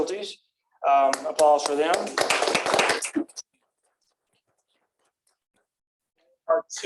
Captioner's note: applause